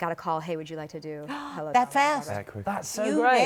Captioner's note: gasps